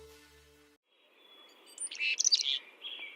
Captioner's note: sounds of birds